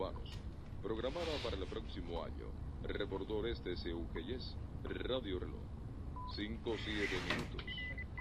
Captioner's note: radio